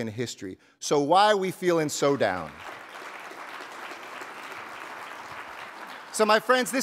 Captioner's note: audience applauding